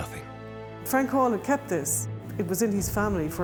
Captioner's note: none